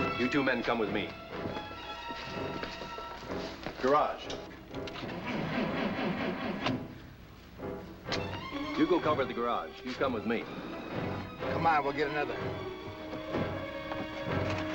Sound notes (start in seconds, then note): 4.9 engine sputtering